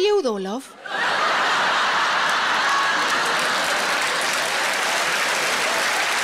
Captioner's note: audience laughing and applauding